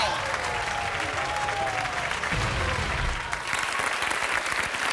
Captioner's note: crowd applauding